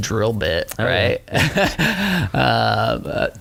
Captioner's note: laughter